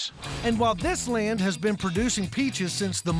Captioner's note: none